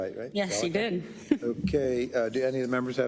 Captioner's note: laugh